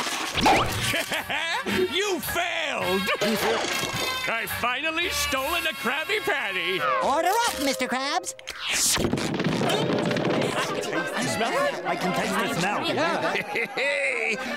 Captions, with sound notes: Heh heh heh, you failed! I've finally stolen a Krabby Patty! Order up Mr. Krabs! [footsteps] [chattering] Hey, hey, hey.